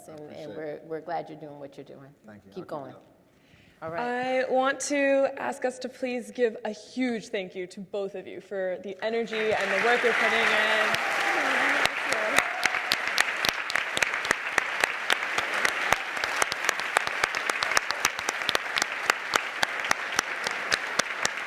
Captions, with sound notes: and we're glad you're doin' what you're doin'. Keep goin'. - Thank you, I'll keep it up. - All right. - I want to ask us to please give a huge thank you to both of you for the energy, and the work you're putting in. (audience applauds)